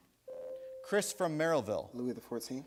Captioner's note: buzzer sounds